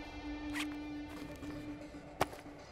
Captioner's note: Zip opens